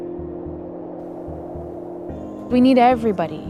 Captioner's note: ethereal wind blowing